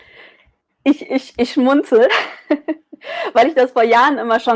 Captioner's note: laughs